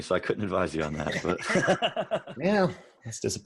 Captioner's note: everyone laughs